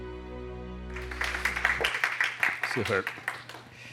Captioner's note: applause